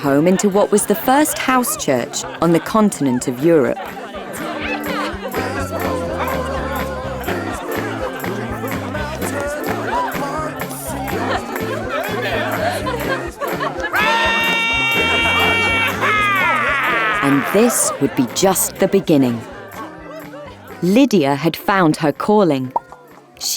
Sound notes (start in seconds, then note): 4.4 crowd chatting happily; 4.4 upbeat music; 13.9 Paul roaring excitedly